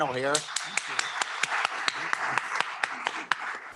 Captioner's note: applause